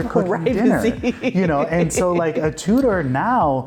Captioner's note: laughing